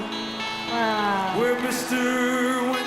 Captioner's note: audience cheering